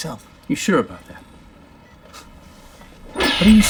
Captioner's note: chuckles